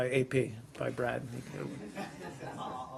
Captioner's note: laughter